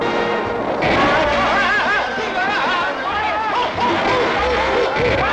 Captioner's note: screaming